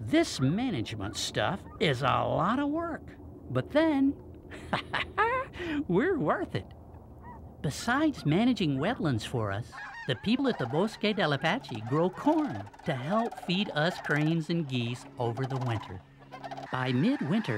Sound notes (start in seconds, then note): 4.4 laughs